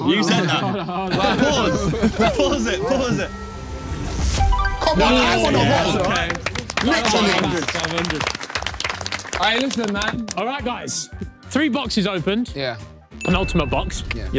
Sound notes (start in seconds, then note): 0.0 everyone laughing; 5.4 everyone clapping